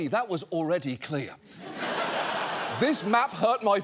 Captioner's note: studio audience laughing